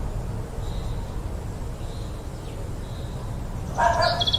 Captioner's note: dog barks